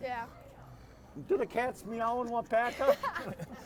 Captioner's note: laughing